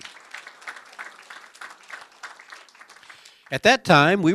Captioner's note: applause